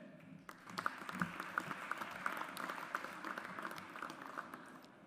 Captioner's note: audience applauds